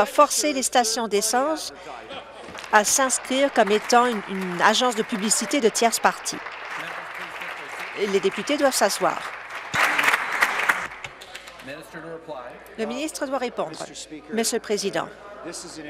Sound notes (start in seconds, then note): 6.1 applause